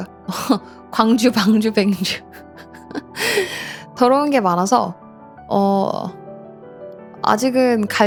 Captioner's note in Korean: 웃음; 헉 소리